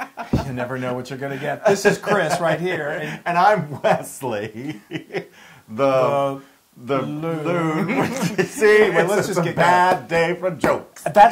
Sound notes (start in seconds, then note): 0.0 laugh; 7.0 laugh